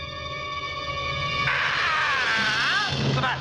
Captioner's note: screaming